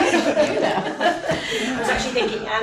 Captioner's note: laughter